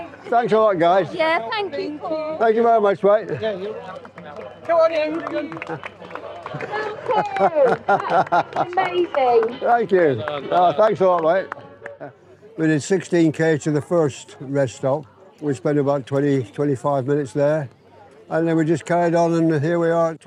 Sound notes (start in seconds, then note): 3.8 clapping